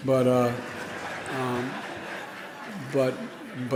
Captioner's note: laughing